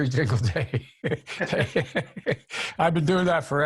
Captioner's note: both laugh